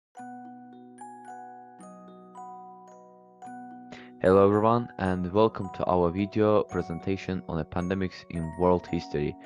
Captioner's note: speaking confidently